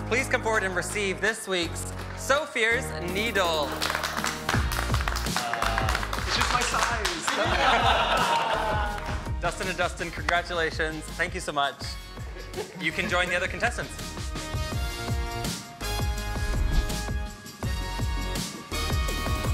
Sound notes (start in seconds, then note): 3.4 all clapping; 3.9 upbeat music; 7.3 all chuckling; 14.8 gentle upbeat music